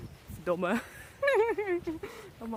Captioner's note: laughs